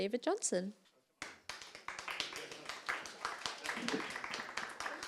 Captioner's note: audience clapping